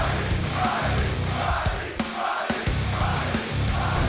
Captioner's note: fans chanting